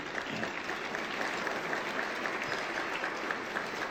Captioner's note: crowd clapping